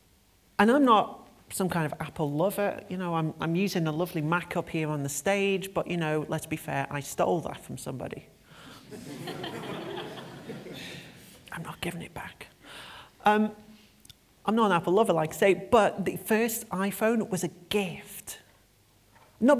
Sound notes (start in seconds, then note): 8.8 laughter